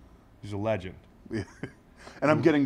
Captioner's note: laugh